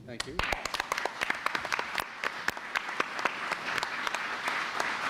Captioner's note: applause